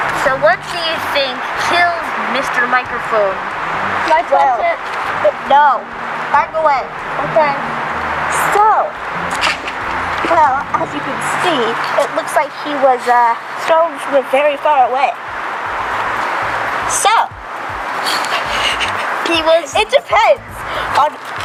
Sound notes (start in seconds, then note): 17.9 Candy laughing